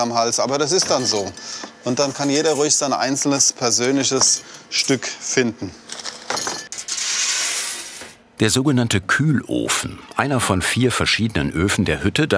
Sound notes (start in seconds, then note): none